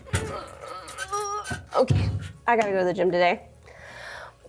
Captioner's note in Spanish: Abby gruñe